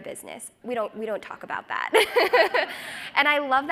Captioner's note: laughs